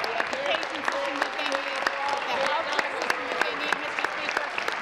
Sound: applause

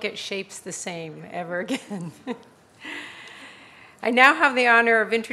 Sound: laughs

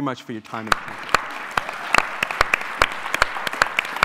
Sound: applause

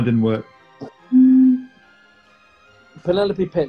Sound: blows note on bottle

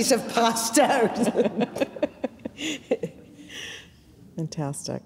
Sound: all giggling

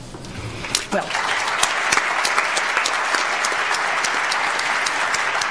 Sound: audience applauds

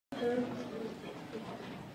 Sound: chatter

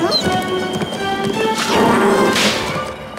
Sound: growling

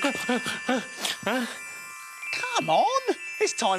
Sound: gasps

